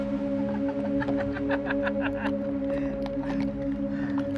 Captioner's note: snicker